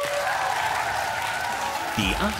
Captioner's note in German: Applaus